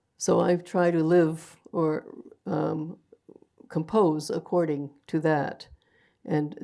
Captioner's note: none